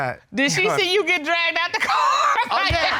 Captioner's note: laughs; audience laughing